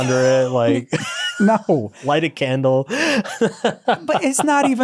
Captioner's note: laughs